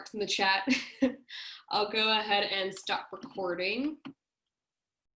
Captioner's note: laughter